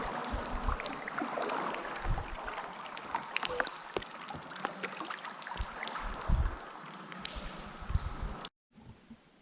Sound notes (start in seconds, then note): 0.0 splashing water